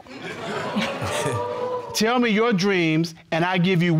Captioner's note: audience chucking and groaning